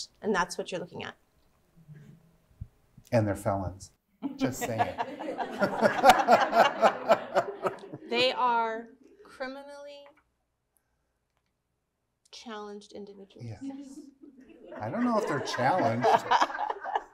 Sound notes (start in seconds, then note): 4.3 laughing